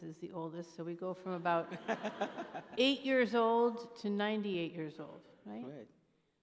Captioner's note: laughter